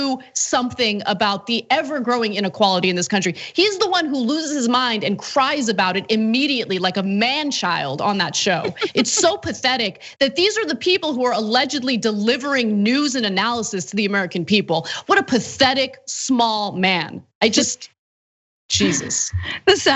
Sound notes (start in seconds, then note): 8.6 laugh